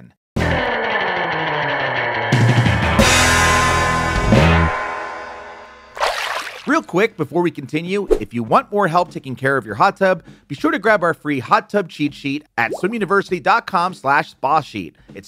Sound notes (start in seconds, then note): 0.2 upbeat rock music; 5.9 water sloshes